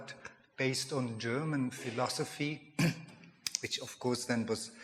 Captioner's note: coughs